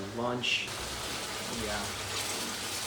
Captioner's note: food Grilling